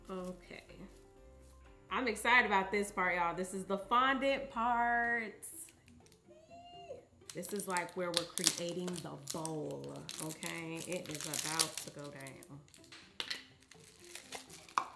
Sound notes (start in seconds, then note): 6.3 squeals